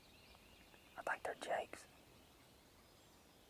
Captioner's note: whispered